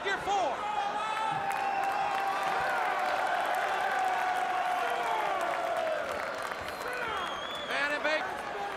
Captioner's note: crowd cheering